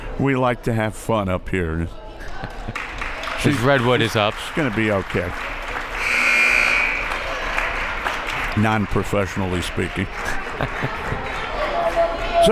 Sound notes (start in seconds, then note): 5.9 buzzer